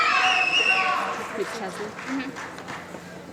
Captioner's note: applause